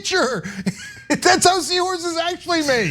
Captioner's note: laugh